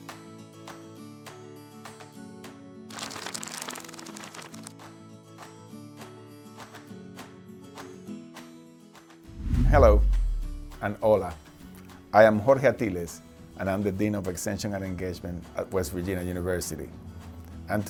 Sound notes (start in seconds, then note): 0.1 light music; 2.9 pages flipping